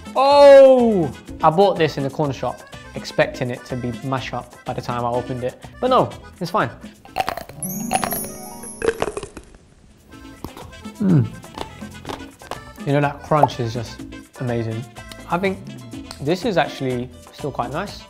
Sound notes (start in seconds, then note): 7.3 ice cream crunches; 7.4 dreamy music plays